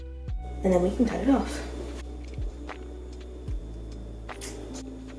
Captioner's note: scissor cuts